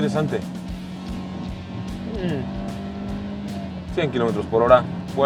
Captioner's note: engine revving